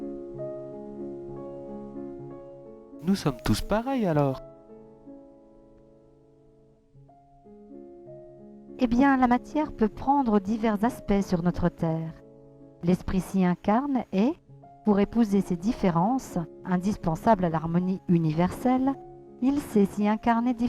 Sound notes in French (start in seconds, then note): 6.0 dis avec une autre voix